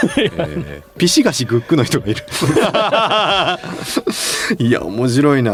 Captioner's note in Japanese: 笑い